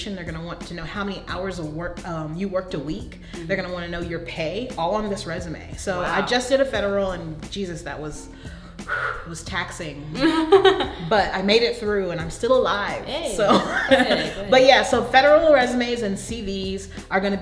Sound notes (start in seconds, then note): 8.3 taking deep breath; 10.2 laughing